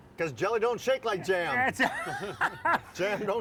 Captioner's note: laughs